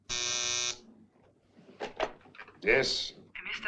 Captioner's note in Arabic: رنين الهاتف